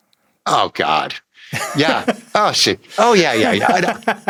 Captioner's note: Nilay laughing